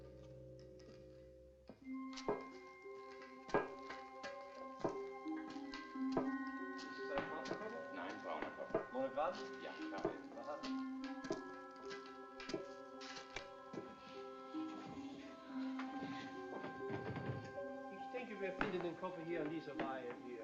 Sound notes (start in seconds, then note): 1.7 thumping; 7.2 men Speaking German; 17.4 man Speaking German